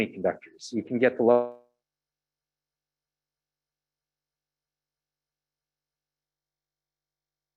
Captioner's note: audio cuts